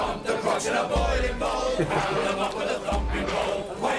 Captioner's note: laughs